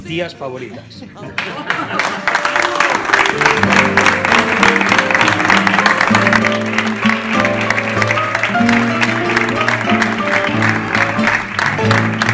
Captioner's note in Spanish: aplausos